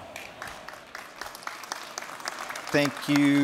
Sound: applause

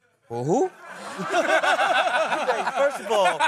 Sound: laughing

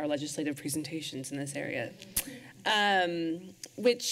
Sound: clicks tongue

